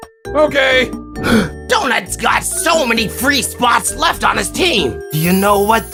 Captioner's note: gasp